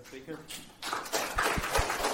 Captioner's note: applause